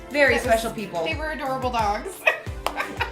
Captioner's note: laughs